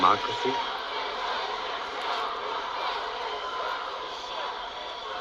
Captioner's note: crowd chants